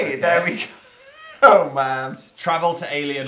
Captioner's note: wheeze